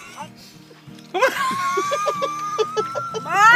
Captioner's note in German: lacht laut